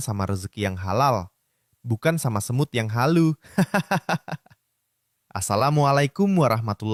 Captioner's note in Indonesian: tertawa